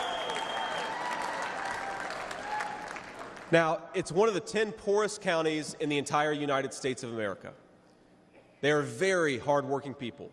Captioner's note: cheers and applause